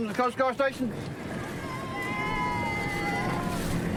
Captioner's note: cheers